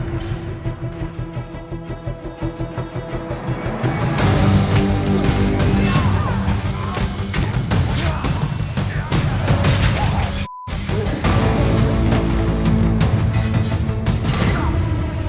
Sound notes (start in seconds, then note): 4.8 machine whirring; 5.7 tense music; 10.7 beeps; 10.7 tense music